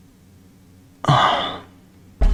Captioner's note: exhales Oxygen